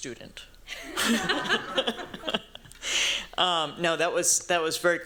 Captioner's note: laughter